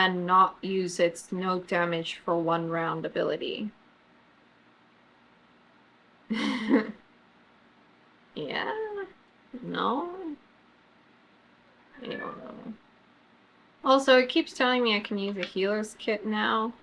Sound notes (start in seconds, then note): 6.4 laughs